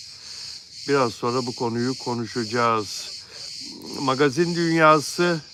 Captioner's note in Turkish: homurdanır